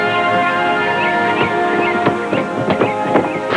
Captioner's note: footsteps; skidding